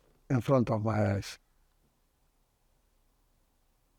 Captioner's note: pauses 8 seconds